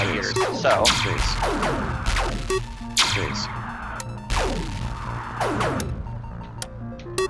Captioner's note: in-game ship shooting; in-game enemy ship exploding